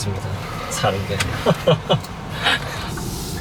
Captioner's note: laughs